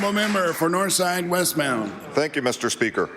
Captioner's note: applause